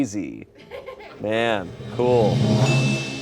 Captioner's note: bell dings